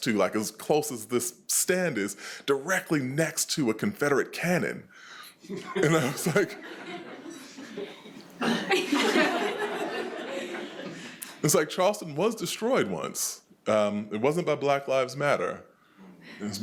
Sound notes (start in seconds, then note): 8.9 attendees laughing